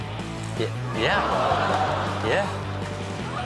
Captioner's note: audience groans